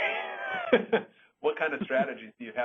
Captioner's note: laughing